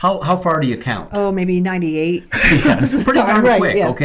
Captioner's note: laughter